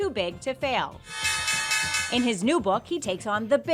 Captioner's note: bell clanging